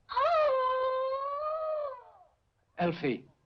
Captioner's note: Elfie wailing